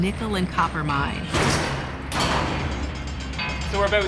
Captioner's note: metal clanging